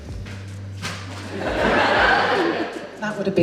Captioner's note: audience Laughs